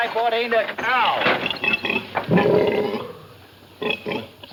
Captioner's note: pig snorts